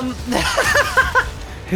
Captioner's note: laughs